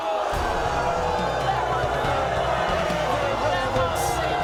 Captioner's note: crowd booing